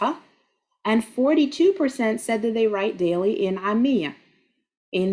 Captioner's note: speaking Arabic